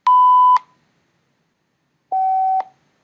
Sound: beeping

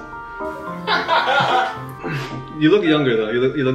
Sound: laughter

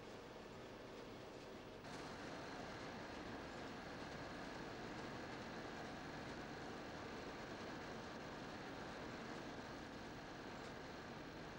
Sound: machinery hums

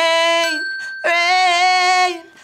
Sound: bell dings

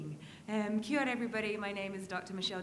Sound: speaks in a foreign language

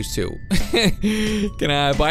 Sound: chuckles

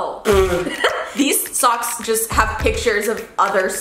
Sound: laughs

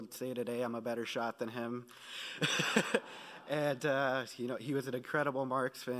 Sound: laughing

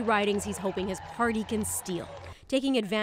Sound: applause

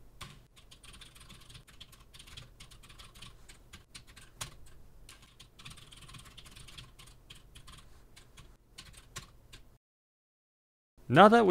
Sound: typing sounds

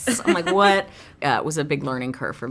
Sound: laughs

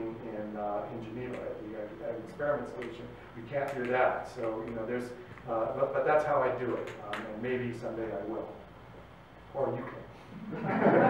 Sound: laughter

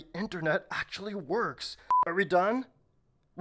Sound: beep

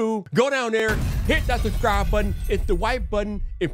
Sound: explosion thunders

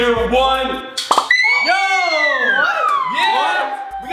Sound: screams

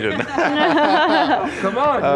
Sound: panel laughs

